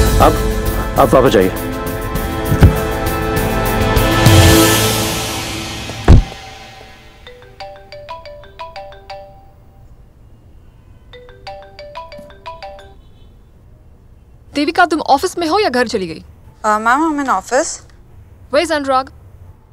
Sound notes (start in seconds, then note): 7.5 Phone ringing